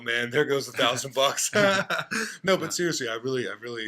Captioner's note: laughter